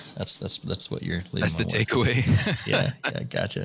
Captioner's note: laughter